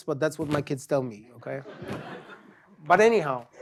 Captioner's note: laughter